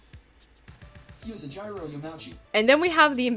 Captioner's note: pronunciation plays from computer